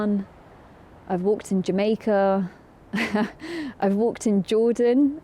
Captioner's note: laughs